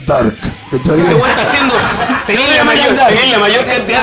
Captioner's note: laughs